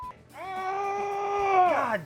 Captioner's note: groaning excitedly